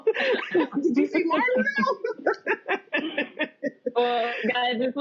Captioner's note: laughter